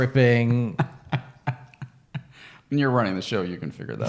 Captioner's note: laughing